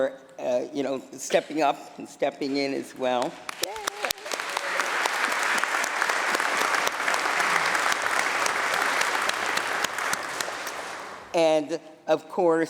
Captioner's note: applause